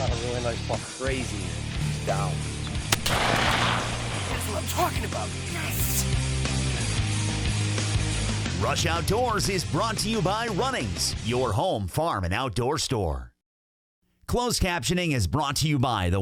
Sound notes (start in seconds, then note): 2.9 gun shoots